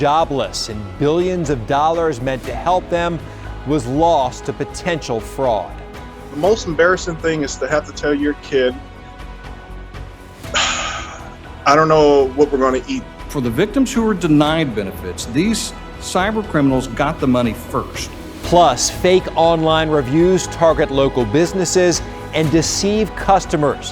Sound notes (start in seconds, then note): 10.5 sighs